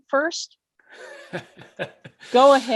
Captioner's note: laughs